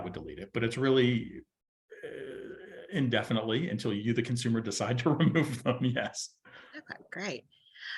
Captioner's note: chuckles